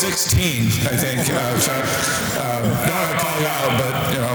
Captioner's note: audience laughter